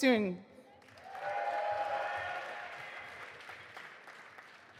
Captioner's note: audience applauding